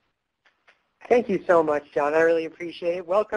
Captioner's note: voiceover